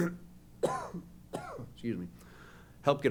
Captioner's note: coughs